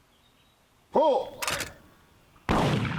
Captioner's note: clicking sound; gunshots fired